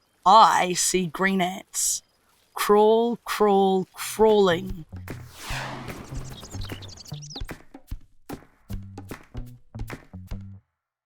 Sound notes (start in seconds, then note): 5.2 air whooshing; 5.4 birds chirping; 7.9 upbeat music